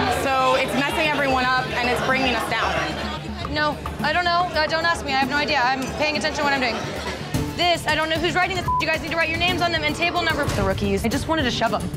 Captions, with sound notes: So it's messing everyone up and it's bringing us down. - No, I don't know. Don't ask me, I have no idea. I'm paying attention to what I'm doing. This, I don't know whose writing this (beep) is. You guys need to write your names on them and table number. The rookies. I just wanted to shove 'em.